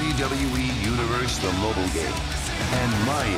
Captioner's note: crowd cheering